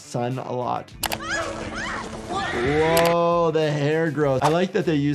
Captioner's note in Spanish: gritando